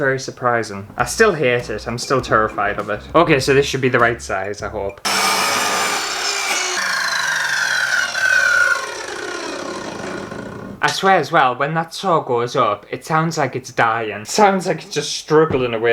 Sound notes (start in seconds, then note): 5.0 loud Scary Power Saw Sounds; 7.5 weird Dying Power Saw Sounds